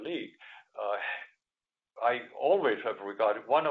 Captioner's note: none